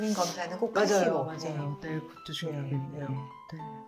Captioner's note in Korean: 콧방귀